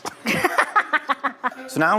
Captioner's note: laughing